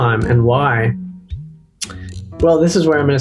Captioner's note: lips smacking